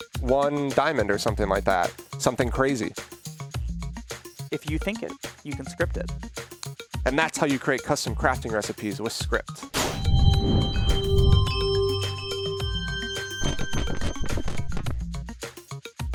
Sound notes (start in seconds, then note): 9.8 chiming sounds